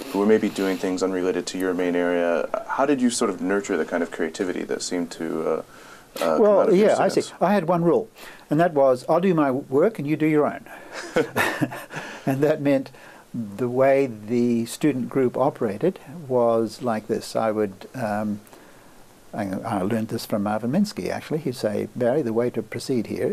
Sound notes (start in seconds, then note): 10.9 laughs